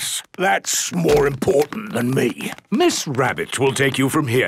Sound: none

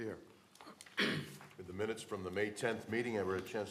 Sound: throat clearing

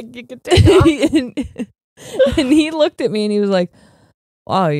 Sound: both laughing

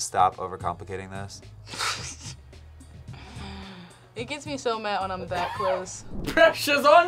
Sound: laughs

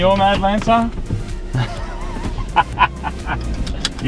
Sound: laughs

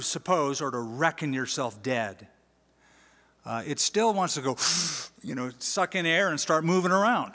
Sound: gasp

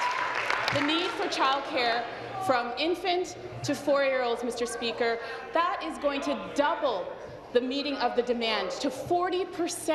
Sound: applause

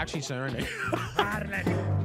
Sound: laughing

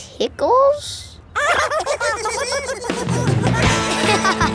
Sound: giggling

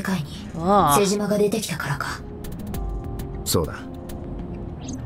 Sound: none

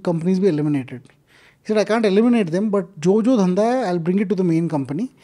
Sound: speaks in Hindi

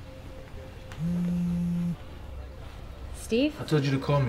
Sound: phone hums

